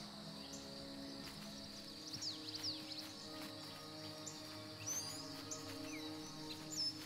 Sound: birds chirping; soft music

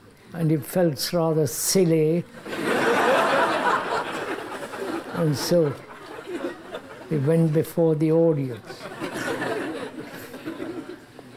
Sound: laughter

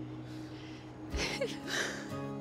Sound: chuckles

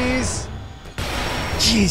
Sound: explosion

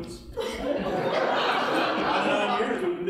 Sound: audience laughing

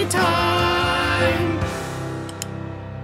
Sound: lamp clicks

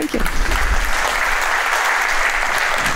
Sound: applause

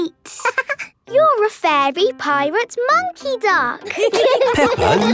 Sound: quacking; laughing; laughter

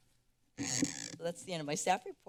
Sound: microphone sound

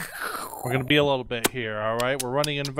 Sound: slurping

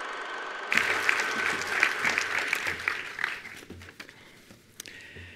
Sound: attendees applauding

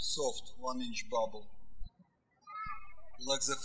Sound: birds chirping

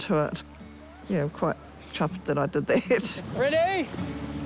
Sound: chuckles

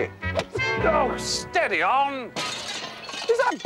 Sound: glass smashes

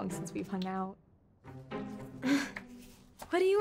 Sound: chuckles

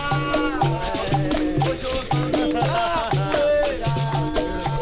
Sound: laughing

